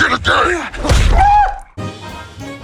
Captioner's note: Typical Tom Hardy noises